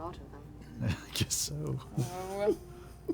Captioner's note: laughing